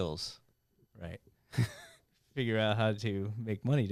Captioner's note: laughing